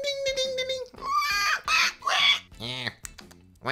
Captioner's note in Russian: визг свиньи